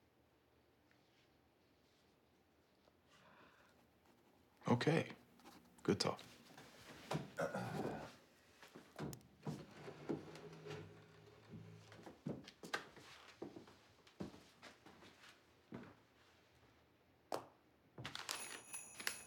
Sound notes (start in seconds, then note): 13.7 footsteps